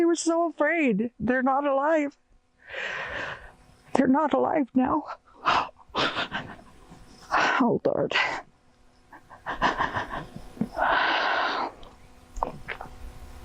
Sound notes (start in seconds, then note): 5.4 gasps; 10.7 shallow breathing